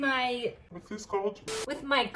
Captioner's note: distorted voice; normal voice